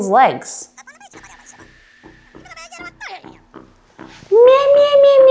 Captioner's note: muffled voice